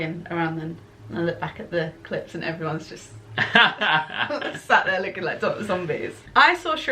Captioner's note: laughter